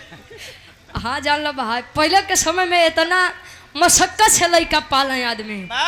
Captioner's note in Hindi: हंसी